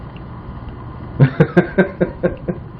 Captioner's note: laughing